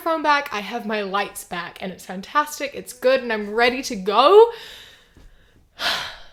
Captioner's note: exhales